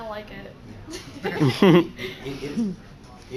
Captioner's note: laughter